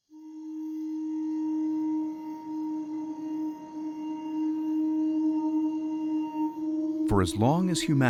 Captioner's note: crickets chirping